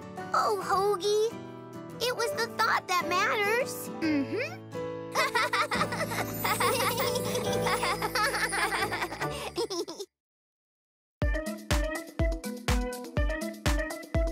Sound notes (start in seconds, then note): 5.1 both laughing; 11.2 upbeat music playing